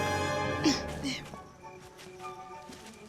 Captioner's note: grunts